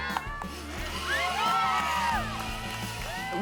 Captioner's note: cheers & Applause